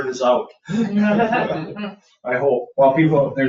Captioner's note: people chuckle